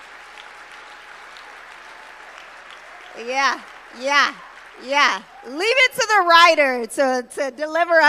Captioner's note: applause